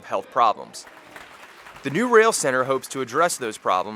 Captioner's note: applause